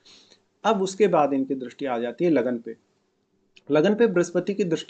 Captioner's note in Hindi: नाक से की जाने वाली आवाज़